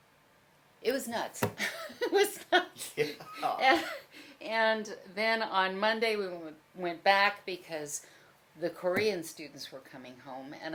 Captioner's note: laughs